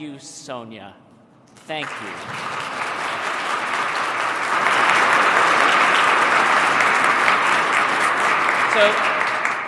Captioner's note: applause